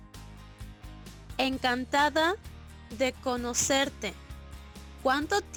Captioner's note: woman speaking Spanish